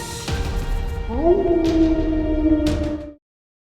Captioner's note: Mischa howls